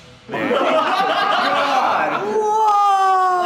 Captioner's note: group laughs